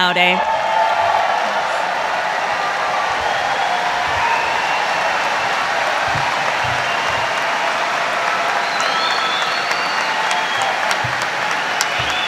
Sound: audience applauding

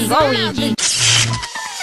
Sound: static

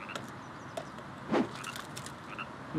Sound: whoosh!

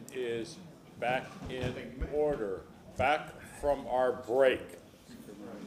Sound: gavel sounding

